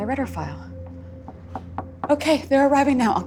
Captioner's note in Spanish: Tocan a la puerta